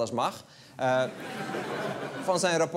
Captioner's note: laughter